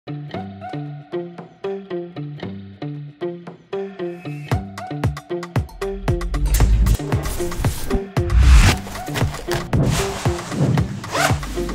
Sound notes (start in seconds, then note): 6.3 sound of sunscreen being squirted and slathered over face; 7.4 sandwich being sliced with exaggerated sound effects; 11.0 sound of waterproof jacket being thrown on an zipped up loudly